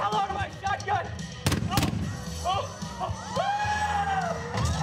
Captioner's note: bangs; yell